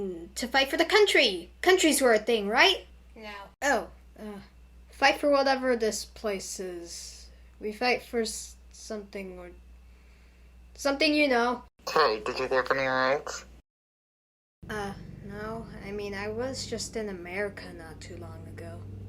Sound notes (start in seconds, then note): none